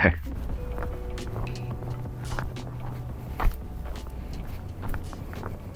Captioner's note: wind blowing